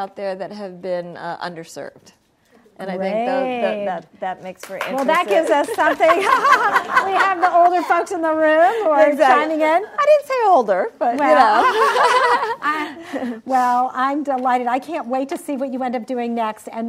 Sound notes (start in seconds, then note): 5.2 laughs; 11.5 laughter